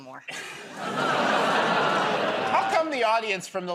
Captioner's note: laughter, groaning